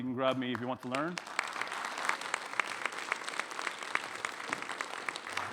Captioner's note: audience clapping